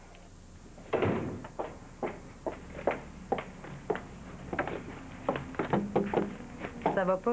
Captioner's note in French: Claquement de porte; Elle cogne à la porte